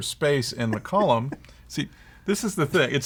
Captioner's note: laughs